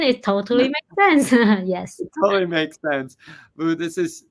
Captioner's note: chuckles